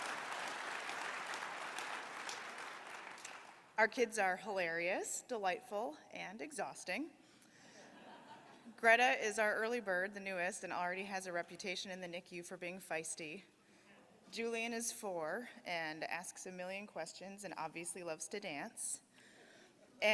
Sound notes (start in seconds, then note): 2.3 applause